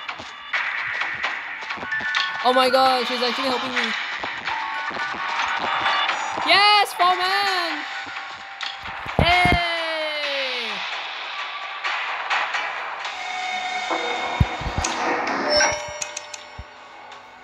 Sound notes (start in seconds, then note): 9.0 happy noises